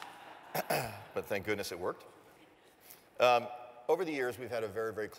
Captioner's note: cough